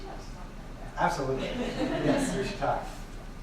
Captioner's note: laughing